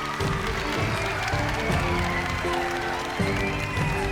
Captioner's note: applause; cheering; upbeat music